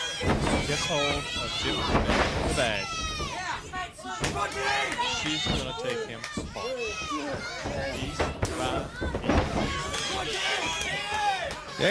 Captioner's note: crowd chatter